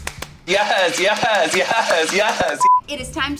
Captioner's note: beep